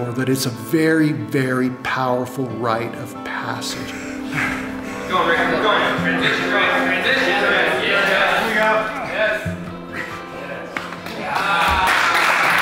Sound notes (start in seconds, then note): 5.2 spectators yelling out simultaneously